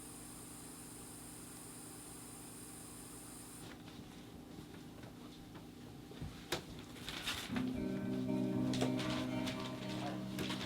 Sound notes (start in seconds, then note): 6.7 paper rustling